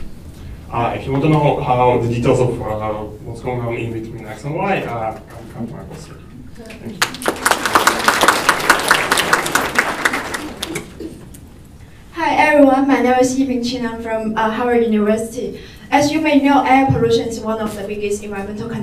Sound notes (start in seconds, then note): 6.8 applause